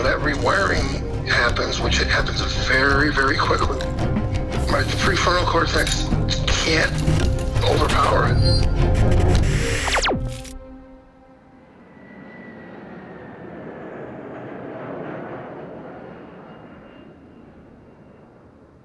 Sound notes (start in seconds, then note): 8.6 static crackles; 11.6 engines whining